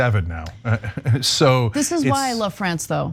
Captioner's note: laugh